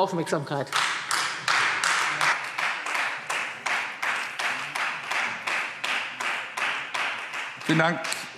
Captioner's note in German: Beifall Freie Demokraten